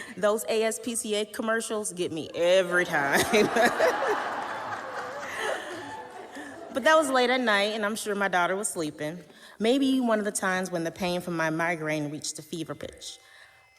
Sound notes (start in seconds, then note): 2.7 audience laughing